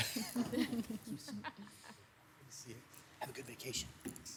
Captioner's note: members laughing; mayor whispering